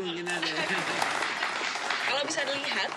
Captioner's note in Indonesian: tepuk tangan